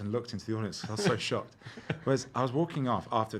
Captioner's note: laughing